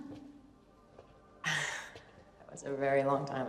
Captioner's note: Jess chuckling